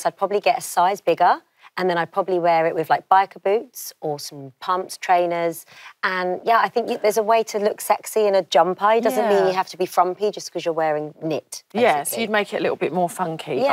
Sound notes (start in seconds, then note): none